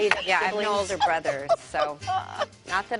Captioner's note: laughter